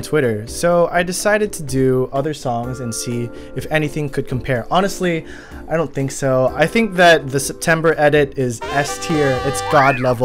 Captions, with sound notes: So, I decided to do other songs and see... If anything could compare Honestly *inhales* I don't think so I think that the September edit is 'S' tier It's God level